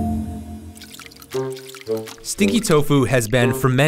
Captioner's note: water splashing